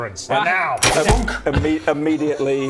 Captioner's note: thunk!